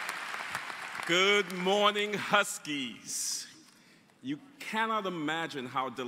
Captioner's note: applause